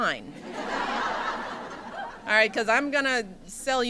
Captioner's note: laughter